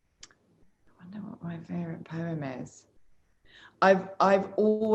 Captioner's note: murmurs